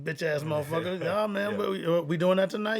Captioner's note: laughs